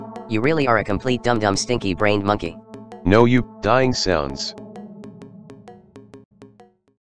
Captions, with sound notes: You really are a complete dum-dum stinky brained monkey. No U. [DYING SOUNDS]